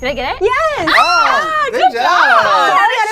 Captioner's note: group cheers